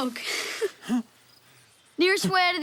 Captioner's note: gasps